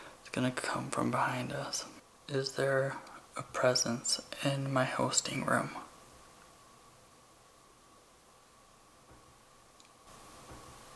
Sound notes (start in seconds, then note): 6.8 soft tapping